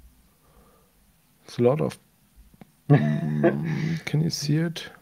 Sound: laughs

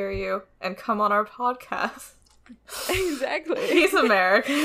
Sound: laughing; laughs

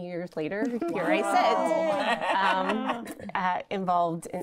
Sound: women exclaiming and laughing

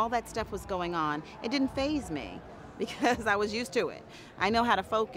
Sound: chuckling

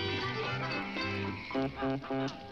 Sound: fire crackles

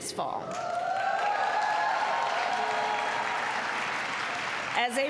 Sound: applause

